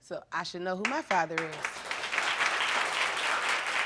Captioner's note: audience applauding